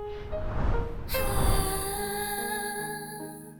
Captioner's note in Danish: whoosh